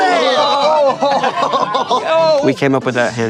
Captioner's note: laughs